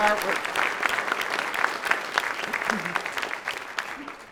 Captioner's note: audience clapping